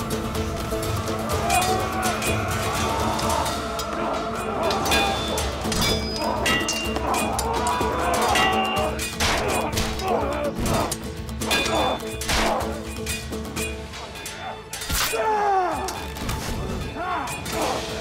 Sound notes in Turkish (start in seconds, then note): 2.2 Savaş sesleri; 10.3 Müzik - Hareketli; 15.9 Odun kırılma sesi; 16.6 Savaş sesleri